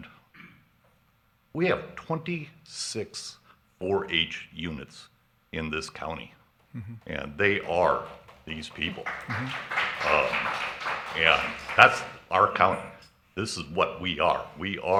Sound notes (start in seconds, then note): 10.1 audience clapping